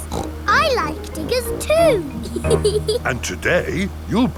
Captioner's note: snorts; laughs